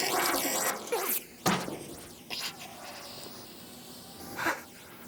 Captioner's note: breathing heavily